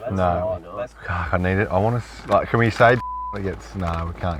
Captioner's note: beeps